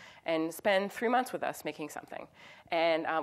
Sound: none

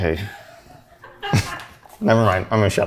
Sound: laughing

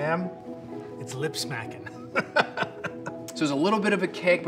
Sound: laughs

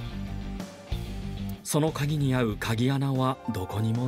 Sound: none

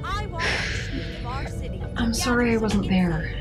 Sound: Barbara sighs

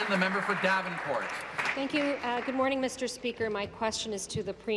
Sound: applause

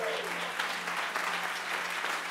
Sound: applause

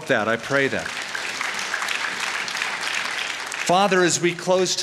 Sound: applause

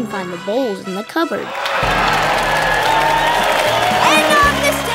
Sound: cheering

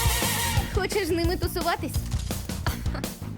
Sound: laughs

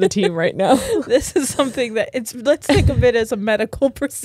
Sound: laughs

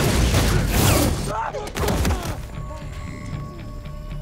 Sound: the Boys grunting; dramatic music

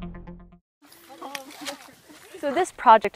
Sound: people talking, shovels hitting mud

